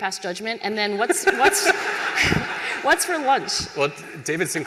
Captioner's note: laughter